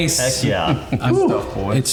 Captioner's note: laughs